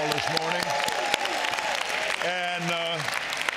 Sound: audience cheers and applauds

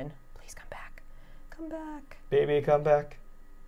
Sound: whispering

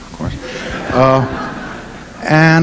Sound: audience laughing

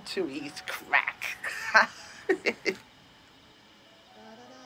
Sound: laughs; humming

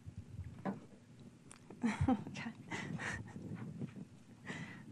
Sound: laughing

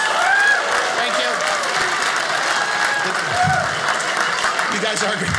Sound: audience applauding

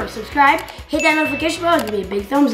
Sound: bell ringing

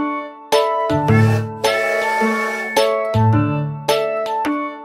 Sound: train horn whistling

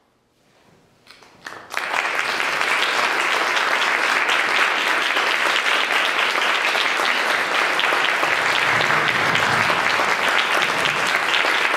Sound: audience applause

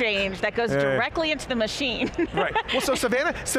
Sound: laughing gently

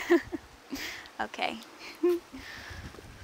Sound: laughs

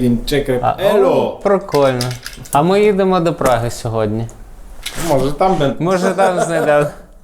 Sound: laughing

